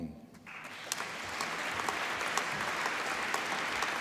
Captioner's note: applause